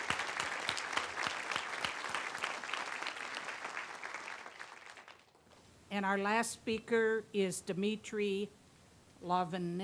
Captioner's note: applause